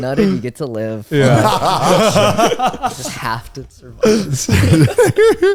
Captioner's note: all laughing